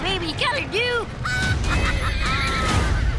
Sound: laughing

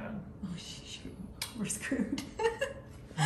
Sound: laughing

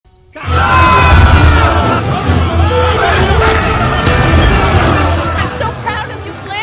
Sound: all yelling and shouting

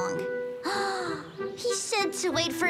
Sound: Sunny gasps

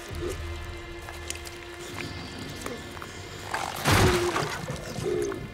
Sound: dramatic music; monster grumbling

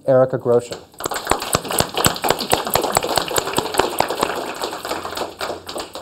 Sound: applause

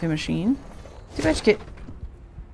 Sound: snorts

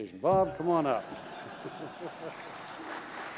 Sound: laughter; applause

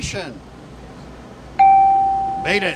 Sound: bell

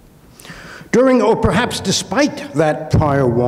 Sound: inhales

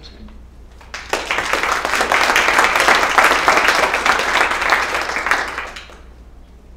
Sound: applause

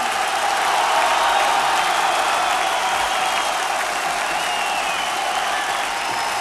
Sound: audience cheers loudly

